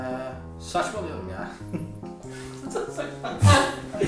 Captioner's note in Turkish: gülüşmeler